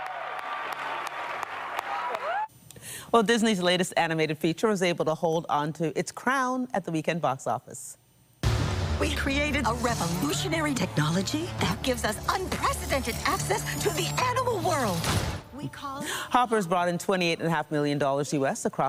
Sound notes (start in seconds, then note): 3.2 applause